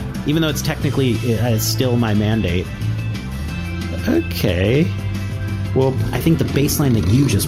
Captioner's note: nervous